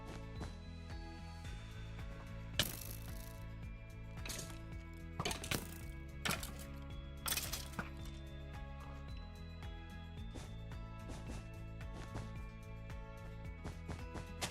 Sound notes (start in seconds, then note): 1.5 quiet Music; 1.5 skeleton Noises; 8.8 quiet Music